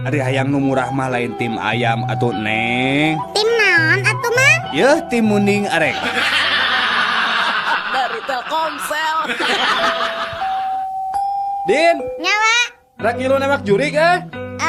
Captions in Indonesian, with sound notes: Ari hayang nu murah mah lain tim ayam atuh, Neng. Tim naon atuh, Mang? Yeuh tim munding arek dari Telkomsel, [tertawa] Din. [lonceng] Enya wa rek ngiluak jurig. Eh,